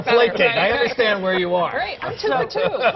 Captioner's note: laughter